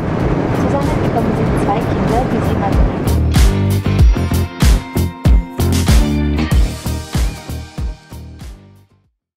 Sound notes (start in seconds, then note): 0.6 podcast voice